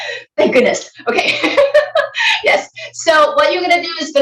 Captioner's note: laughing